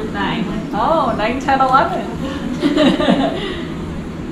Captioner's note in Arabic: يضحك